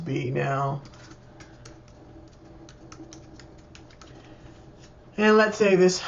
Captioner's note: typing https://www.loom.com